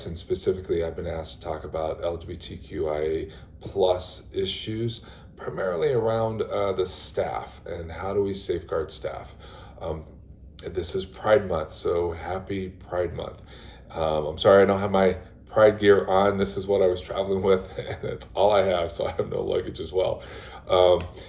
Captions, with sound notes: Specifically, I've been asked to talk about LGBTQIA+ issues primarily around the staff. How do we safeguard staff? This is Pride Month, so happy Pride Month. I'm sorry I don't have my pride gear on. This is what I was traveling with. [LAUGHTER] That's all I have, so I have no luggage as well.